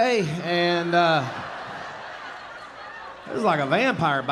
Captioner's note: audience laughing